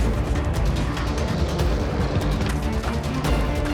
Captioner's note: lion growls